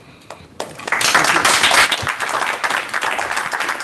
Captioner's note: applause